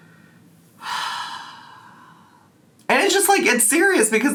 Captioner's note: sigh